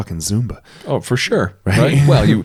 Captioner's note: laughs